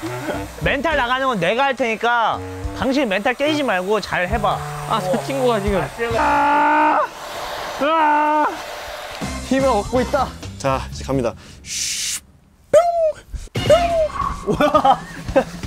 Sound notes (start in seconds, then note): 13.4 boom